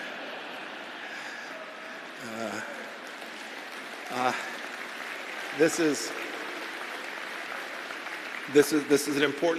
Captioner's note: laughter and applause